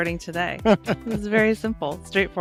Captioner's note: laughs